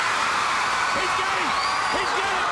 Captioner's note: crowd cheering